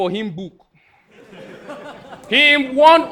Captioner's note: audience laughing